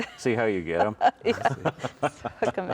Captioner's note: laughing